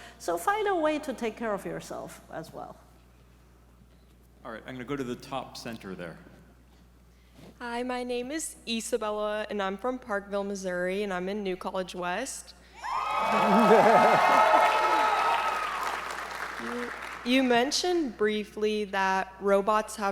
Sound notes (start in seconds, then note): 12.8 audience members cheering